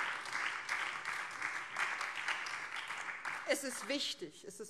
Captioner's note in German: Beifall BÜNDNIS 90/DIE GRÜNEN und vereinzelt Freie Demokraten